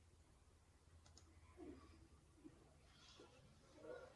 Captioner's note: mouse clicks